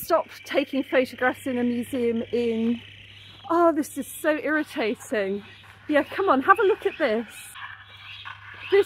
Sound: seagulls screaming

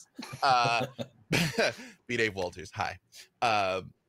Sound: laughing

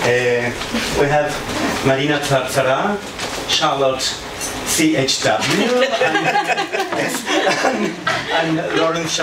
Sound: laughter

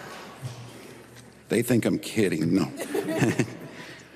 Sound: laughter

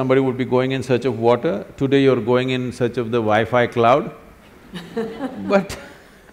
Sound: laughs

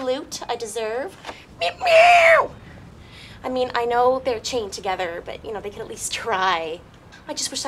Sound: meows roughly

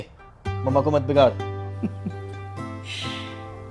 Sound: laughs

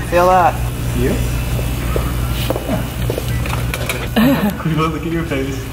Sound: drill buzzing

